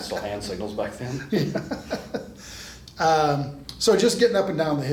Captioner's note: laughs